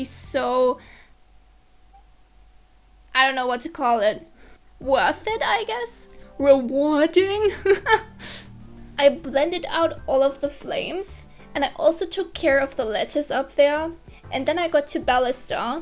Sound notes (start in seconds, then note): 0.8 awkward silence